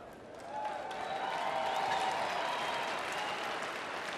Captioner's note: applause